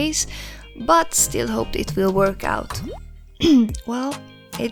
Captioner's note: khm